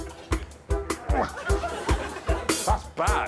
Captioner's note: grunting